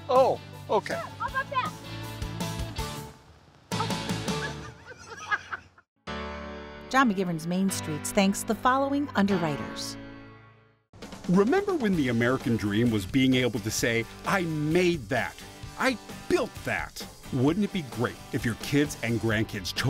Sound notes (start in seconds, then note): 3.7 laughing